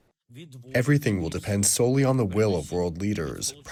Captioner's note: through translator